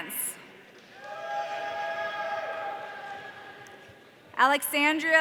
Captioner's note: audience cheering